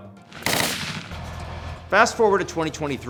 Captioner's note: gunshot echoing